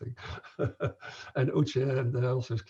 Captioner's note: chuckles